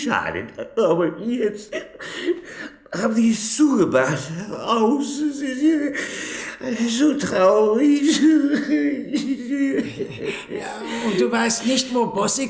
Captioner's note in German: gelächter